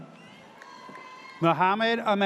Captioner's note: audience cheers